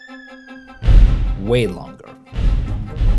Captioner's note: thudding